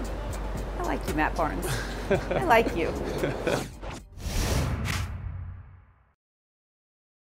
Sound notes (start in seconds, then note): 1.6 laughing; 4.2 fast whooshing